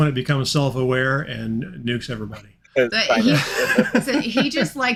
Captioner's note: chuckling